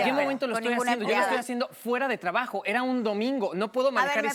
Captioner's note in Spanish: Hablan al unísono